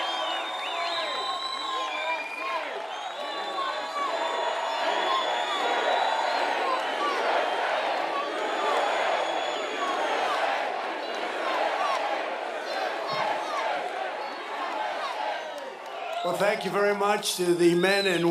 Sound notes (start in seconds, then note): 0.0 cheers and applause; 3.0 audience chants "USA"